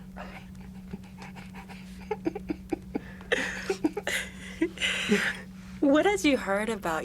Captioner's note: both laugh